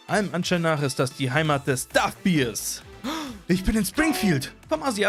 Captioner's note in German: Einatmen